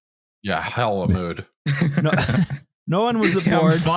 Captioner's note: laughter